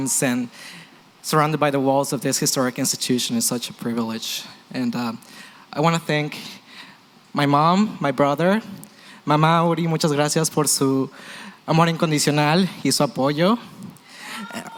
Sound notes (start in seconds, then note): 9.0 non-english